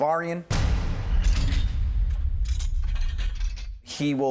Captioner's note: cell door slams, lock clicks